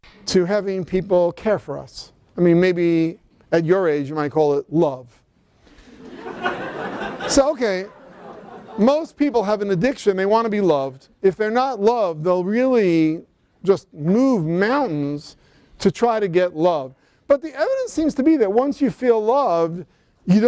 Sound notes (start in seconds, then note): 5.7 laughter